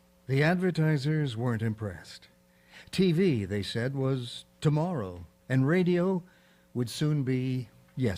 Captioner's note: none